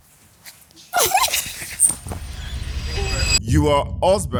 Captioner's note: laughs